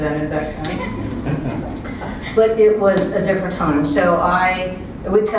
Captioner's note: laugh